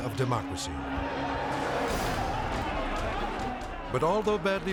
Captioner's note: group chattering angrily